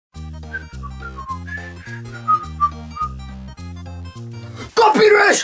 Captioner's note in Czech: Pískání